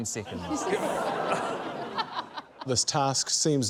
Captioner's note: laughter